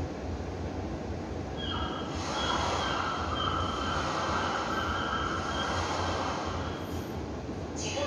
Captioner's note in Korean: 갈매기, 파도 소리